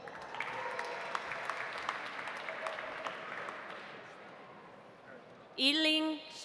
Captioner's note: audience applauding; audience cheering